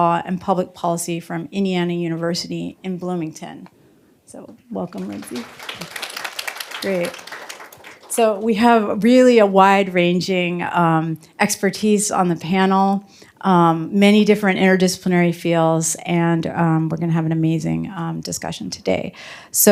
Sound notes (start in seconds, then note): 4.8 applause